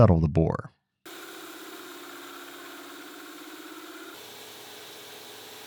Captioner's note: machine whirring